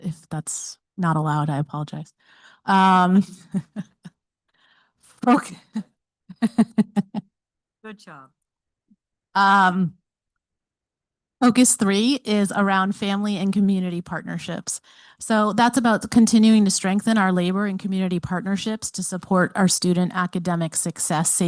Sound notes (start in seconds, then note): 3.2 chuckling; 6.4 chuckles